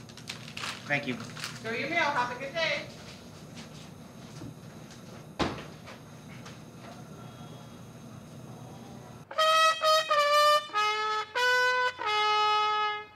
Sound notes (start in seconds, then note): 5.4 door slams